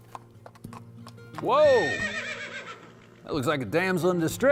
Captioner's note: neighing